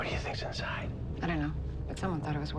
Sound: whispers

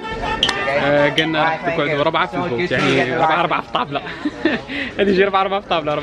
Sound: giggles

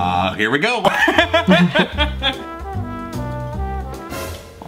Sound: laughs

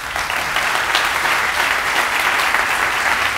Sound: applause

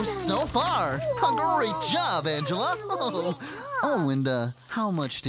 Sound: chuckles

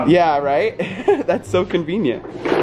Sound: laughs

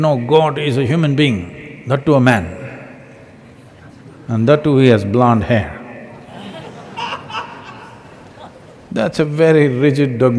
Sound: laughter

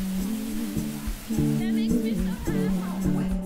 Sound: waterfall sounds

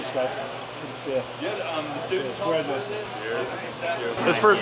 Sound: people chatting

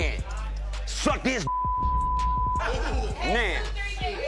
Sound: beep

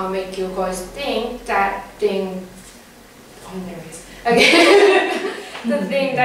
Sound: laugh

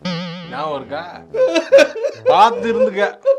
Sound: crying guilty

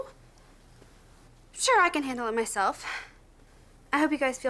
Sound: sighs

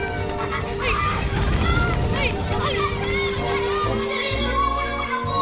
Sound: clamoring

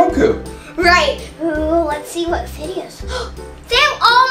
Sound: gasps

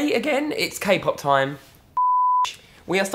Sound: beep

